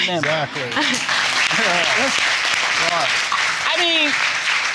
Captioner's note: audience applauding